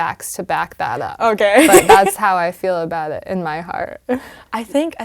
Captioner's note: laugh